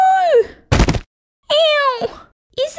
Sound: thud

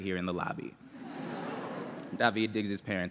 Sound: laughter

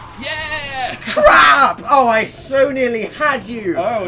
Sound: laughs

